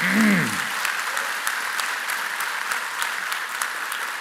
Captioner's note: applause